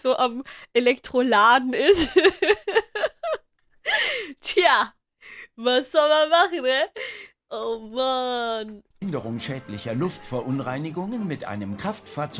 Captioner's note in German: lacht